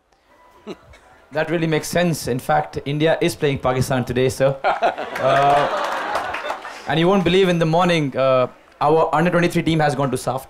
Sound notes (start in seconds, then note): 0.3 laughs; 4.6 laughter/Applause